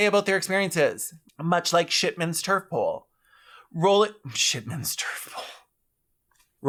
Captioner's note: exhale dramatically